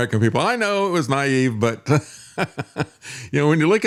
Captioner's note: laughing